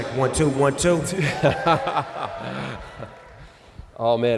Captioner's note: laughter